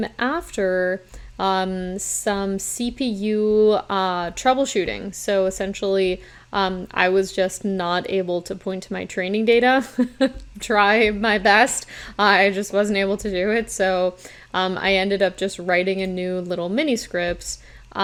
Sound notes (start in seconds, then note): 9.8 chuckles